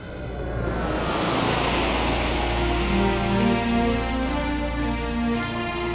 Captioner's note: logo whooshing; dramatic music